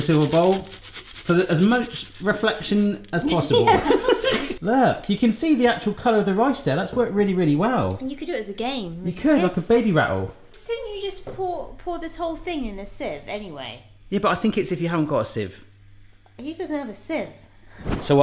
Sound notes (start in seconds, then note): 3.3 both laughing